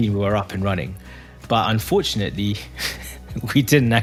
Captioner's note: laugh